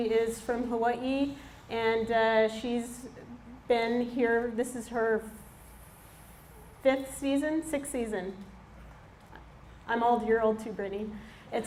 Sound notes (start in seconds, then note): none